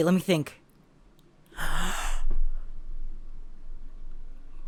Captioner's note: gasps